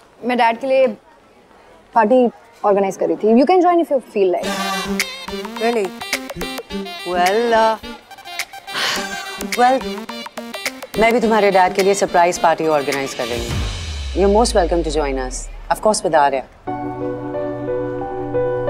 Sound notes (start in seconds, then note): 8.7 sighs